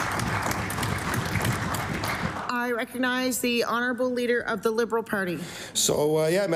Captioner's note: applause